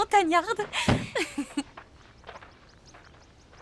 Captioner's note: chuckling